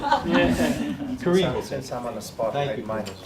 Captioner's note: group laughs